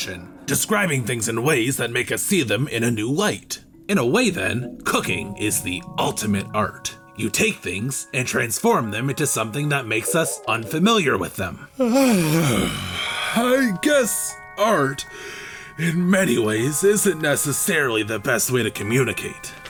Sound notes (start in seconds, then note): 11.7 yawning